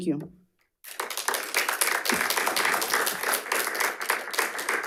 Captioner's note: audience clapping